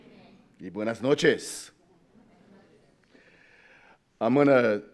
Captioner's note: speaks in foreign language